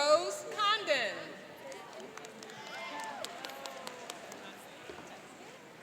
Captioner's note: cheering and applauding